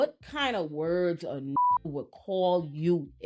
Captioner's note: beep